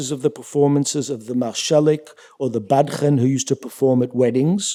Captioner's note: yiddish